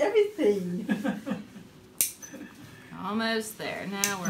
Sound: laughs

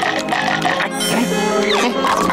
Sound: sniffing

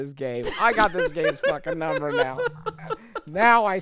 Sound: laughing

